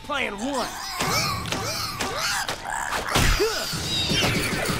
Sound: groaning

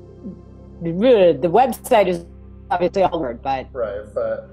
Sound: groans

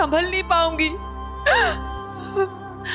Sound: sobs

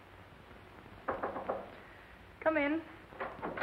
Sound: knock on door

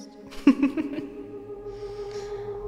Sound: laugh

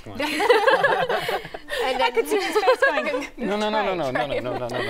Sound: laughter

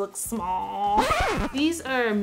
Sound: record scratching

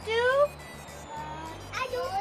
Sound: children all talking

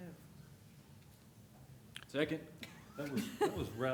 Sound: laughter

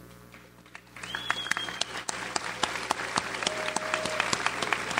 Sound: audience applauds

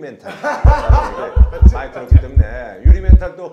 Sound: heart's beating

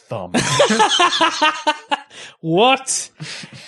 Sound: laughing

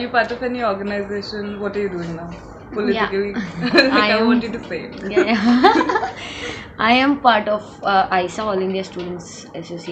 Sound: laughs

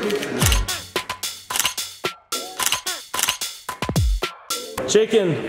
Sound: upbeat music; camera shuttering

